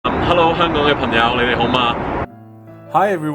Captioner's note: speaks in different language